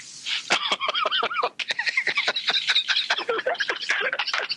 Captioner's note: laughs